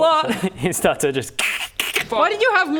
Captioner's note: krrckcck